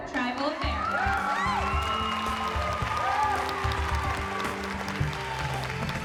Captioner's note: cheers and applause